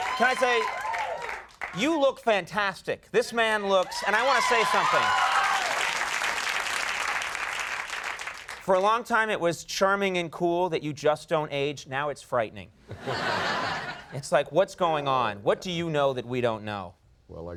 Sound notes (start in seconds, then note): 0.0 audience applauding; 5.5 audience applauding; 5.5 audience cheering; 12.9 audience laughing